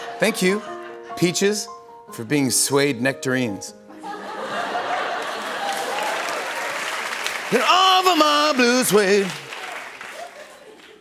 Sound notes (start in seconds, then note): 4.0 laughter; 5.1 applause